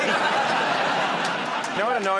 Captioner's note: laughter